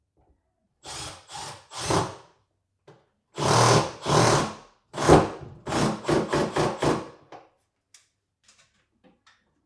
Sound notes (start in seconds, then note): 0.9 drill whirring